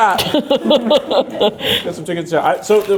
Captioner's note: laughing